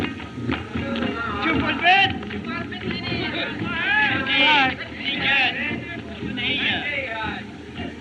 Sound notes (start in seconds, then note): 1.4 man Shouting In Native Language